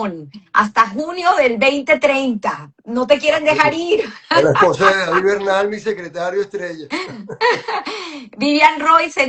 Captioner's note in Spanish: risas